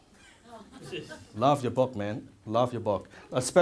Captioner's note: crowd laughs